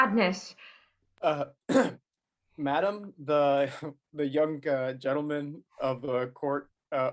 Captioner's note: clears throat